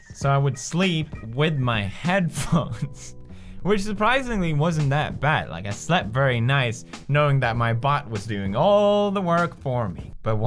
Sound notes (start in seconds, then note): 2.6 laughter